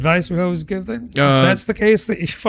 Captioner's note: uh